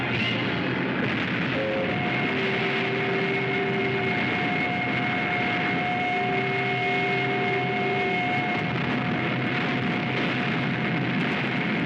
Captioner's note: artillery firing